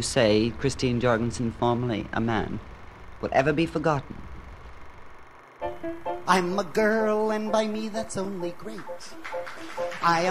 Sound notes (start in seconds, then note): 5.2 film reel whirring